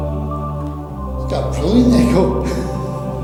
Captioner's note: laughs